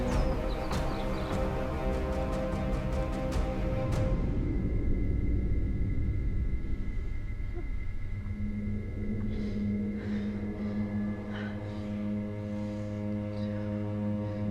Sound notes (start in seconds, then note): 0.0 dramatic music; 2.6 birds chirping; 4.4 dramatic music